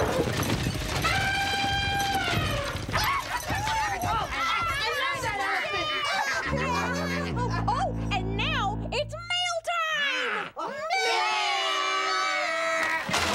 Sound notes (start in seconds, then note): 6.5 foghorn blows